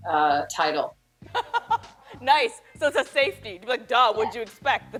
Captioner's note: laughter